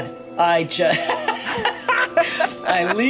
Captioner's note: giggling